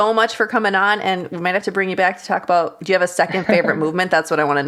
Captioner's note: laughs